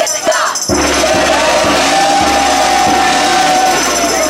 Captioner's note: gong ringing